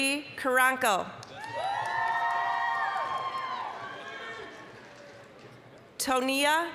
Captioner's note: applause, cheering